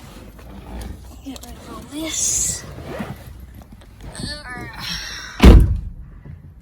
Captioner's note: car seat makes squeaking noise; grunts and groans; car door slams